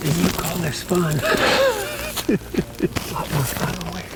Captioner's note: laughs